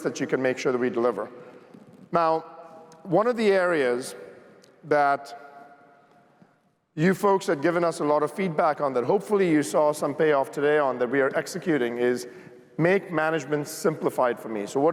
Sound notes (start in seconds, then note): none